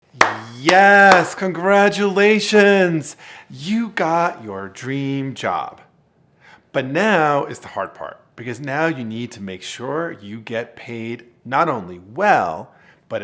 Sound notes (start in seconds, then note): 0.1 clapping